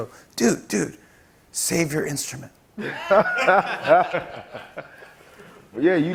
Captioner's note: laughter